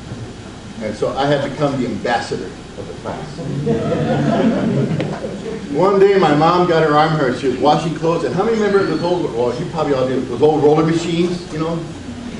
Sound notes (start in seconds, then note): 3.3 audience laughs